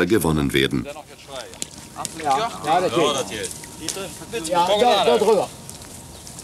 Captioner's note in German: Arbeitsgeräusche und -gespräch